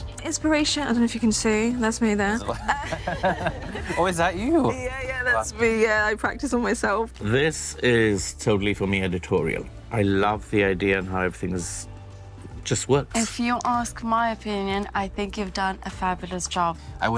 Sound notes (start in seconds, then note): 2.4 group laughs